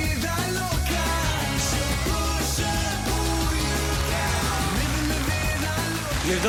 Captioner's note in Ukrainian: оплески